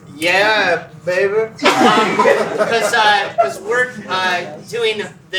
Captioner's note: laughter